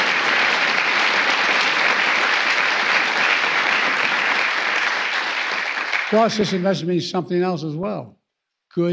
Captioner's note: applause